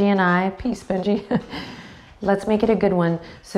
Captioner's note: chuckles